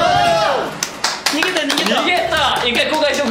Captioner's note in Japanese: 拍手